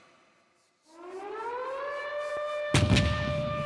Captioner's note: siren blaring; cannon firing